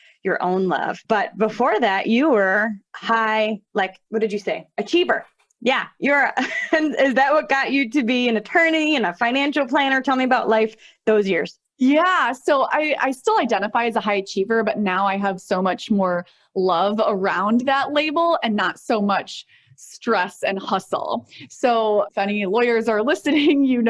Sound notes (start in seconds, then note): 6.6 chuckles